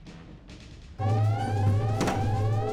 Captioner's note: alarm blaring